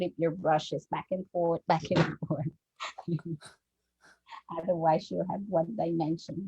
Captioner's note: chuckles